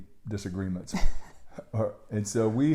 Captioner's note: laughing